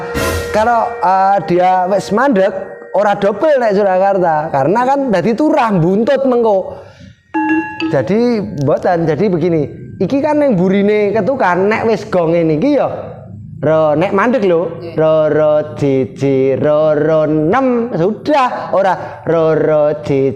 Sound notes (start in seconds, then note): 14.1 gong